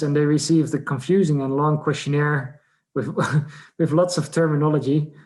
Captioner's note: laughs